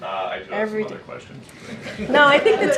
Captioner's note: laughter